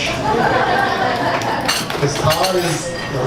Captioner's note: audience laughs